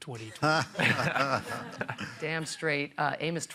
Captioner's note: laughter